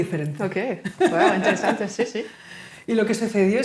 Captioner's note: laughing